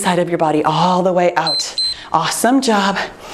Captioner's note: timer beeps